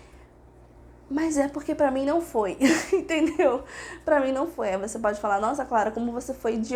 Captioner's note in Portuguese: risadas